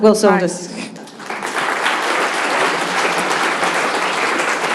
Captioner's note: applause